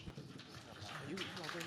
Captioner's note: audience claps